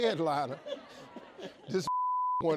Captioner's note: audience laughs